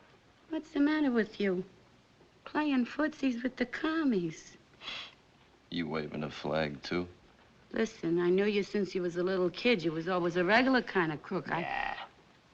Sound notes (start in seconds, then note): 4.7 scoffs; 11.9 scoffs